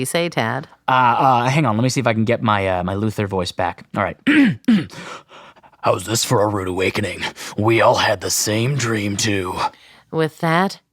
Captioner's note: deeper, menacing voice